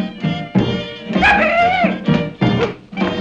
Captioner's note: professor whooping